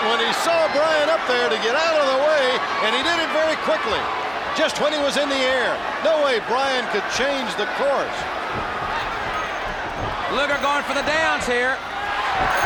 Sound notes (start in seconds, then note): 8.2 footsteps plodding